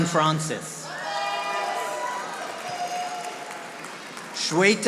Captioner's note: audience applauding